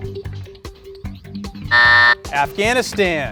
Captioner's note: buzzer buzzing